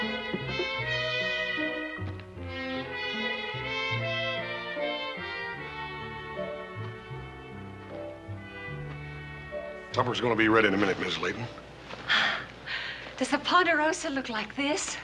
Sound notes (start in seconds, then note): 12.0 Mrs. Layton sighs